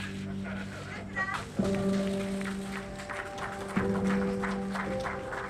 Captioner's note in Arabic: الجمهور يصفق